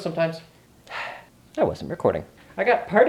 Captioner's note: sigh